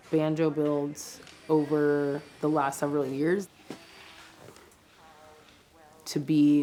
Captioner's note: machinery whirs